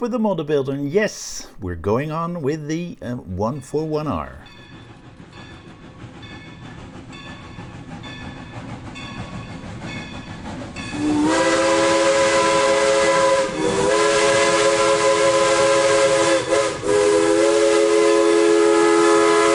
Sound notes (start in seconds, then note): 6.1 train bell and Steam whisle